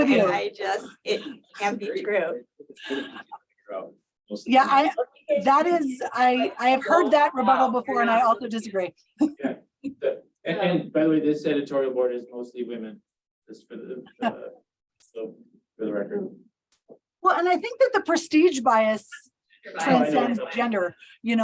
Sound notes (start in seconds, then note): 9.2 chuckles; 15.6 chuckles